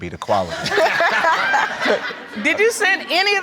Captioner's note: laughter